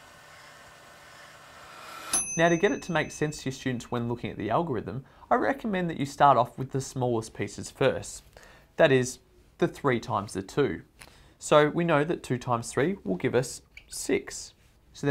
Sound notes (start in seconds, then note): 0.0 wind-up motor humming; 1.8 timer bell ringing